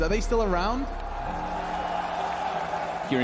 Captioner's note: crowd cheering